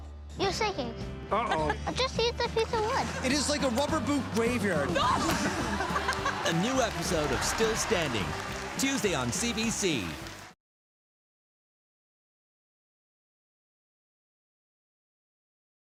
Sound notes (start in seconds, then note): 5.0 laughter